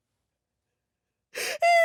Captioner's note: sobs